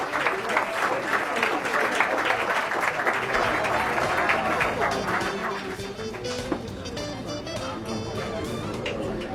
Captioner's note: applause